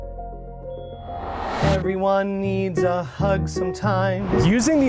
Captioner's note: whooshing